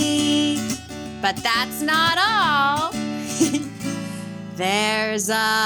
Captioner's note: chuckles